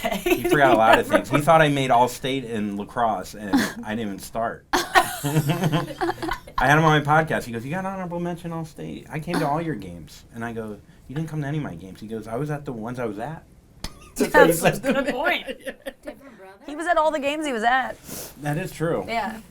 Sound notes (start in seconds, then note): 4.8 all laughing; 14.0 laughs